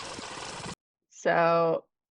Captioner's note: VHS fast forwarding noises